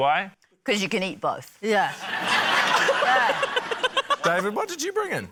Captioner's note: laughter